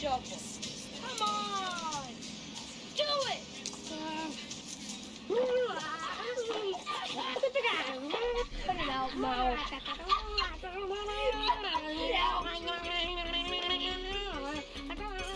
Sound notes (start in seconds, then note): 8.2 Chunk groans; 12.0 mouth giggles